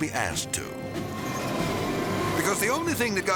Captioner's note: dramatic orchestral music; train rustling